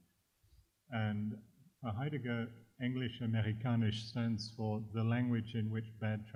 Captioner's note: german